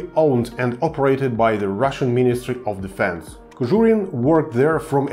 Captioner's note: russian